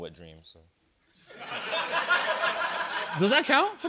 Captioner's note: laughter